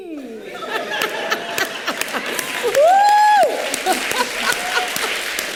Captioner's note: laughing